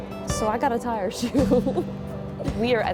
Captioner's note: laughs